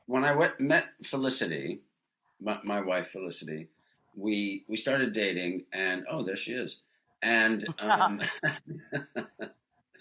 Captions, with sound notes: When I met Felicity, my, my wife Felicity, we, we started dating and oh, there she is. And um, (laughs)